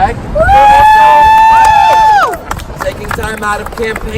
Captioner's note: cheers